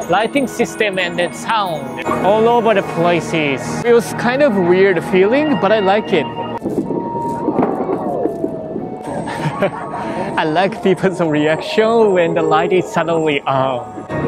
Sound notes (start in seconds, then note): 7.4 thundering sound; 7.4 crowd reacts; 9.0 chuckles